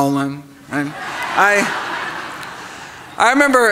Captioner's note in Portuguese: risos